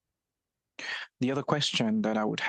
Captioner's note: speaking French